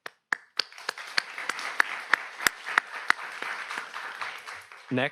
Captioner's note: audience applauds